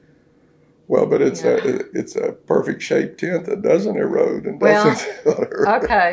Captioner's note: laughs